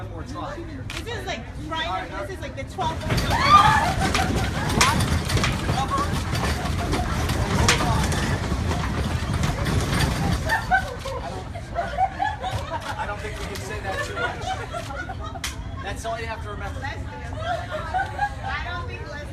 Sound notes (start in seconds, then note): 3.3 laughter; 3.3 shaking starts, yelling in background